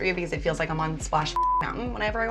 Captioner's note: beep